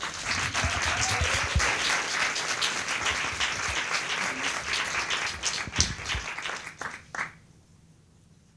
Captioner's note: applause